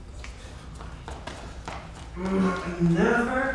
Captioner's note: footsteps stomping